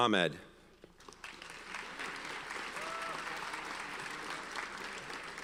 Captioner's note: audience applauds